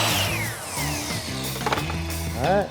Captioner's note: whirring